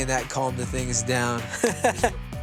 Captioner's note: laughs